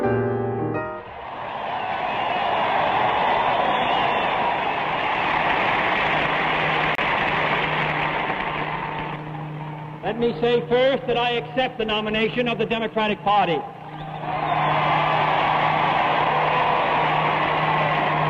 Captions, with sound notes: (crowd cheering) - Let me say first that I accept the nomination of the Democratic Party. (crowd cheering)